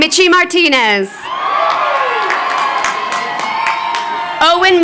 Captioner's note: crowd cheering